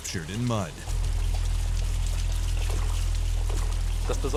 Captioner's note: water splashing; boat engine humming